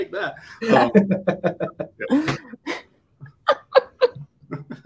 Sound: all laughing

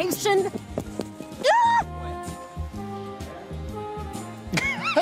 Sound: Vanessa screams; man laughs

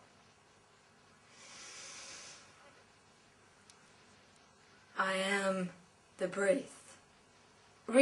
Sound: breathes in

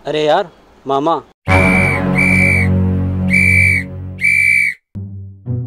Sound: police whistle

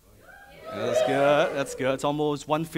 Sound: audience yelling

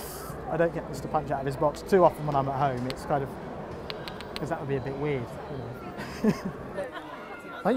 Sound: laughs

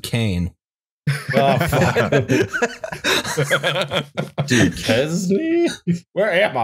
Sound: laughter

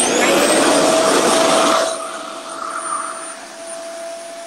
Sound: RevAir whirs

